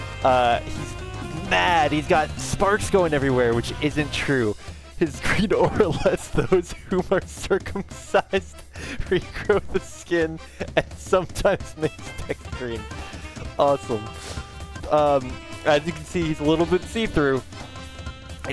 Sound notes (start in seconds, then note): 5.0 breaking up while reading; 14.1 sniff